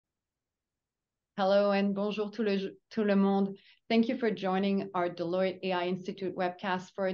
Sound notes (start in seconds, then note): 2.6 speaks in French